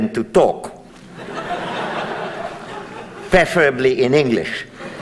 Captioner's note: audience laughs